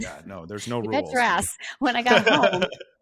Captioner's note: laughs